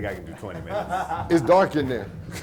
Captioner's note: laughs